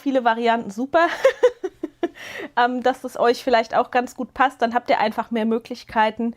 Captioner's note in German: gelächter